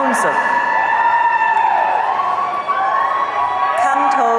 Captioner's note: audience cheering